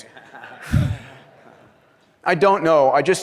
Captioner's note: laughter